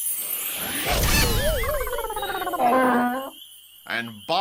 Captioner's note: chimes sound; explosion